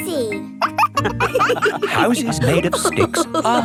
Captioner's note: wolves laughing